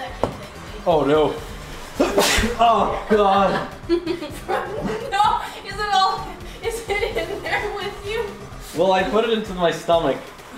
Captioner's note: sneezes